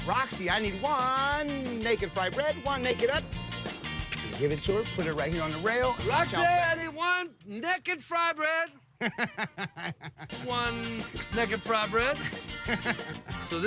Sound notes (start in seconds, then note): 8.9 chuckling